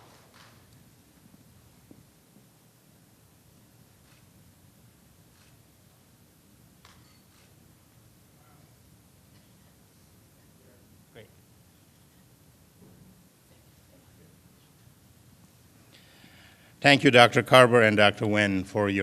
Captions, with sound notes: [ APPLAUSE ] THANK YOU DR. CARVER AND DR. WEN